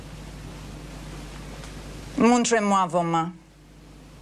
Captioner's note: speaks French